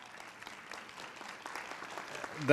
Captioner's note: applause